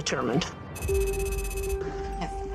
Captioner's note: tense music; text clicking